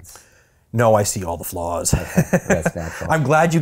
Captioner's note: laughing